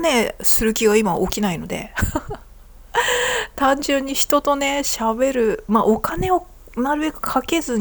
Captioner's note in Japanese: 笑い